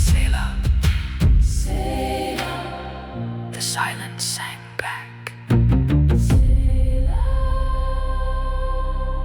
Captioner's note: final Whisper